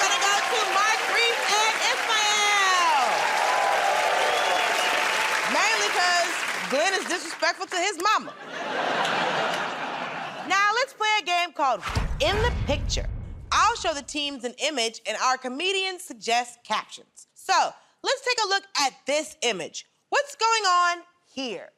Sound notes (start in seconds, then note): 3.1 cheers and applause; 8.2 laughter